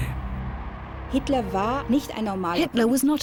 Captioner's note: woman speaking german